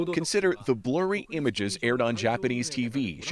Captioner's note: speaking foreign language